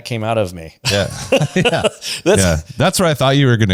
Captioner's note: laughs